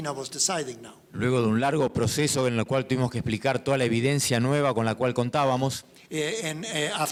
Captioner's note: speaking in foreign language